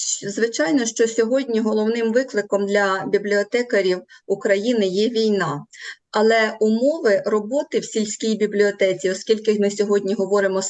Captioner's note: foreign Language